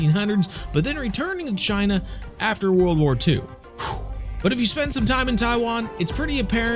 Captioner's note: exhale